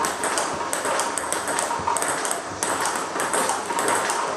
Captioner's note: ball ping pong hitting continues